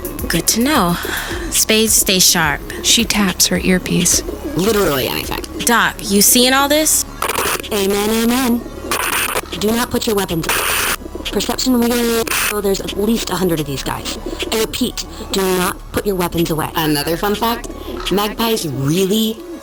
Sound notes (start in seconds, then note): 7.6 static